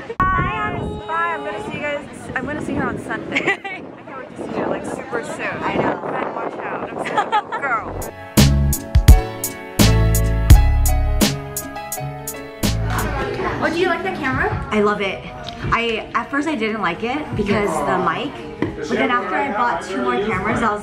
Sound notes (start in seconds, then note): 3.3 laughs; 8.1 lofi hip hop